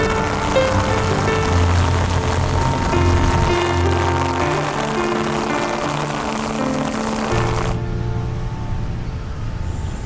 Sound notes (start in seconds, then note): 0.0 rain pattering